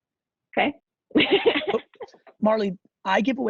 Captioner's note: laughing